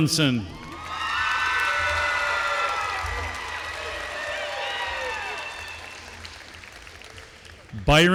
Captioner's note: applause